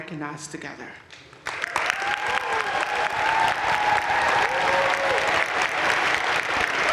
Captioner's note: audience cheering and applauding